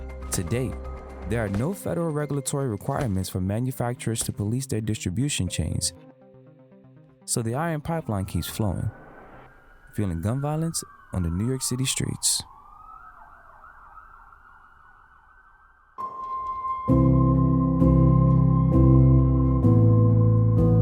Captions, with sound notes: To date, there are no federal regulatory requirements for manufacturers to police their distribution chains. So the Iron Pipeline keeps flowing, fueling gun violence on the New York City streets. (sirens ringing) (pensive music)